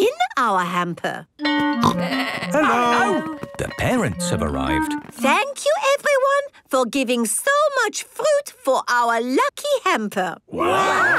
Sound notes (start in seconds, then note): 2.8 school bell ringing